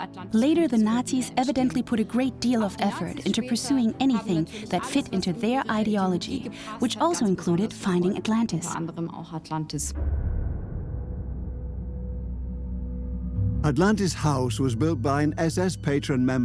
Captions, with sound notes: Later, the Nazis evidently put a great deal of effort into pursuing anything that fit into their ideology, which also included finding Atlantis. (echoing tone) Atlantis House was built by an SS patron member